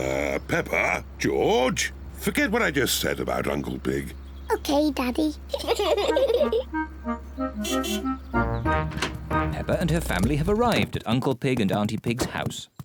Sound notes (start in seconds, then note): 5.4 both giggle; 6.6 honks horn